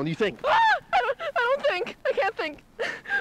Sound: screams

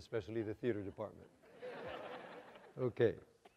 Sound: audience laughter

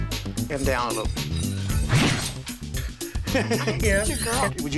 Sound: laughs

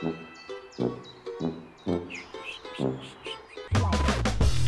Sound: birdsong

